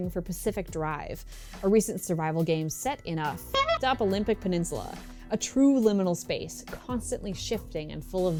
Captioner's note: clown honk